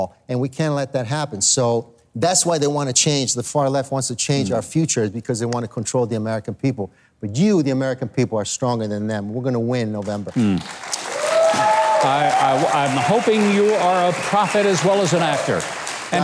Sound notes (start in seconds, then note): 10.0 crowd applauding and clapping